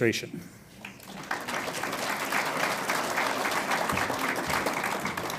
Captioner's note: audience applauds